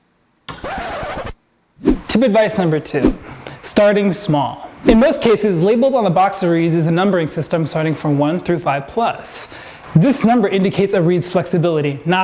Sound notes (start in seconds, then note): 0.5 record scratches